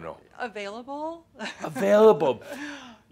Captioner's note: she chuckles